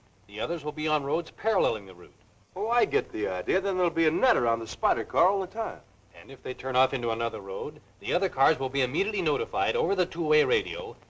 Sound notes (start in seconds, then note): none